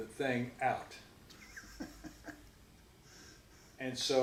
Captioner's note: chuckles